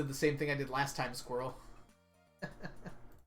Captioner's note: laughs